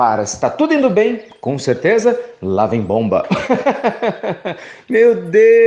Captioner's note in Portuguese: Risos